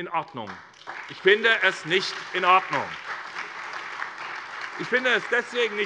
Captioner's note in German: Beifall SPD und vereinzelt DIE LINKE